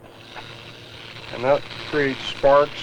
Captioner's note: sparking